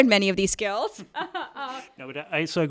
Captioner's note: laughing